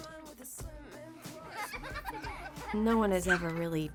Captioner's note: girls laughing